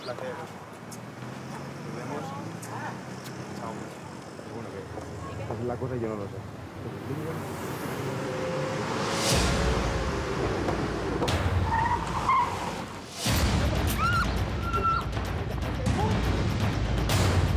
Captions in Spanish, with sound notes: >>BUENO, UN PLACER. NOS VEMOS, CHAO. [Chirrido de gomas] [Gritos]